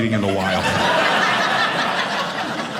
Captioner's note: audience laughing